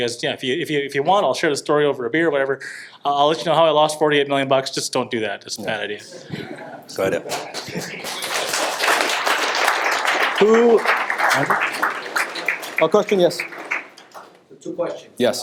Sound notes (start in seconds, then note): 6.0 audience applauds